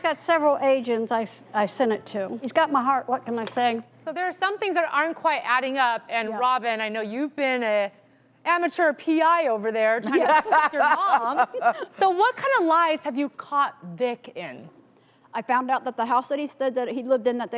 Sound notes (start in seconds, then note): 10.1 laughs loudly